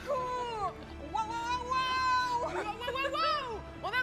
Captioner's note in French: cri de guerre